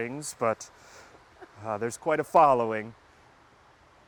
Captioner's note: laughing